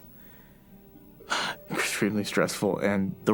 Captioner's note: sighs